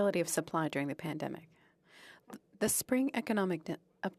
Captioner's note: speaking French